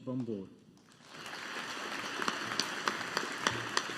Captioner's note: audience applauding